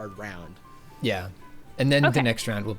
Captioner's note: pat